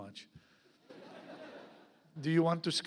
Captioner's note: audience laughs